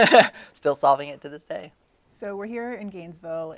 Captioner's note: laughing